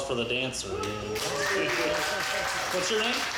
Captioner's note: audience cheers